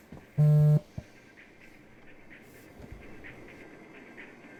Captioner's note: phone vibrating